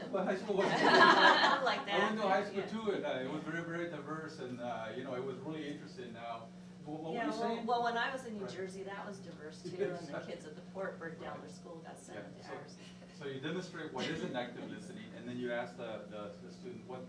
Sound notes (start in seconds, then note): 0.6 laughing